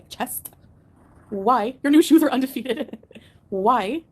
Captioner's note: laughs